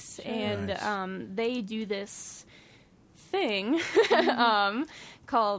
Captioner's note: laughs